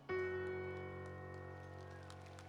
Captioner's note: applause